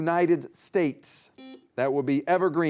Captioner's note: buzzer beeping